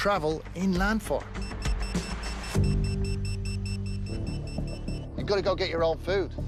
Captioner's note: buzzer beeping